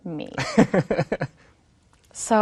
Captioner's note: laughing